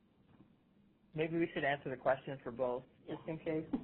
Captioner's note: voiceover